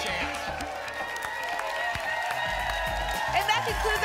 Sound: applause and cheering

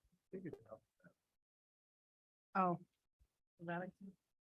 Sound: indistinct conversation

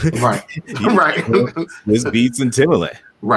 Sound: laughter

